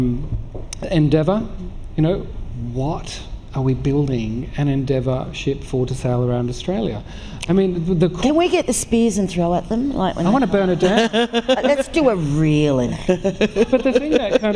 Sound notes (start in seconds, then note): 13.0 laughter